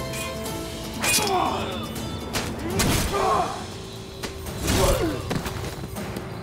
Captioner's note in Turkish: Dövüşme sesleri